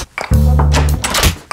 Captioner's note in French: toc toc toc